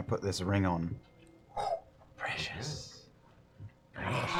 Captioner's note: whispers